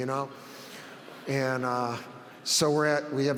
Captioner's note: audience laughs